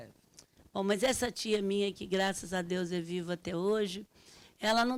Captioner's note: speaking Portuguese